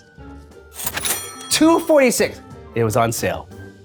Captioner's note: cash register dings